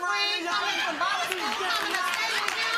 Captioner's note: applause